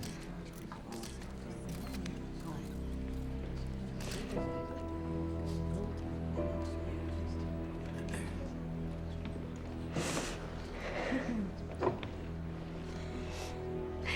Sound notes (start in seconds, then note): 9.9 sniffs